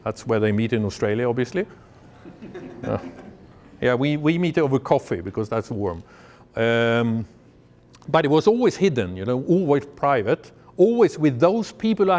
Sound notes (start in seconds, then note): 2.2 laughter